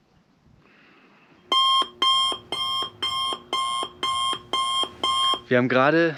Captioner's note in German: Alarm Signal